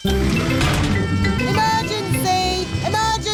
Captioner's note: siren blaring